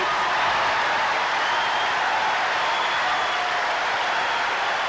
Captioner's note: applause